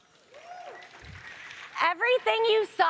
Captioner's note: audience applauds